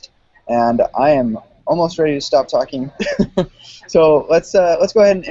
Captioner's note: laughs